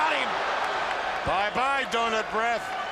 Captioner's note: crowd cheering